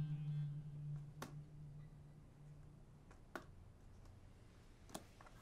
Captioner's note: football thwacking